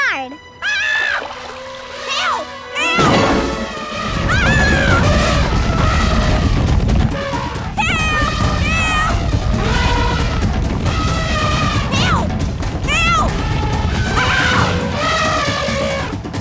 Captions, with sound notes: [screaming] Help! Help! [trumpeting, screaming] [trumpeting] Help! Help! [trumpeting] Help! Help! [screaming] [trumpeting]